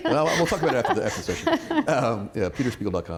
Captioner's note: laughter